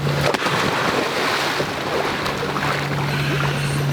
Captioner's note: water splashing